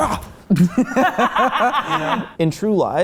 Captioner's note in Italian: risate